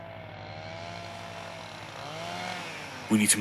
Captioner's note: sound of a Chainsaw